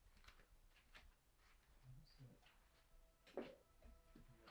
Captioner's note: shoes shuffling on floor